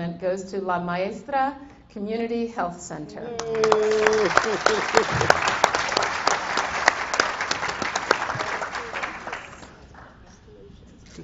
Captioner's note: applause